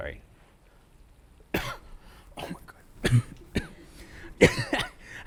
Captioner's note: coughs